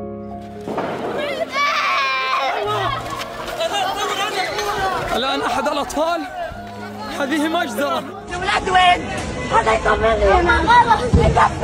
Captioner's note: people screaming